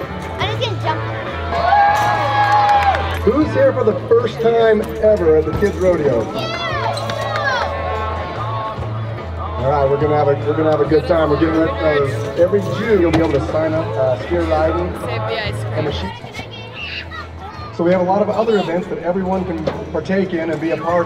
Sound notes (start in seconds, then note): 6.4 scattered cheers